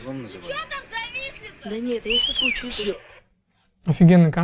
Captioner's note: scream